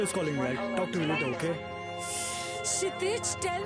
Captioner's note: ambulance siren